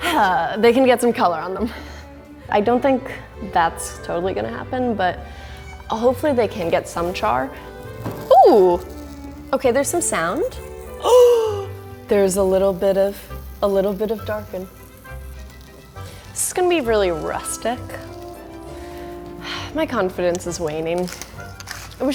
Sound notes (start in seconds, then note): 10.9 gasps